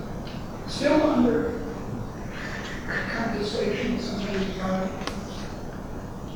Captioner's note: rustling drowns out speaker